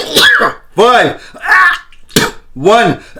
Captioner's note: coughing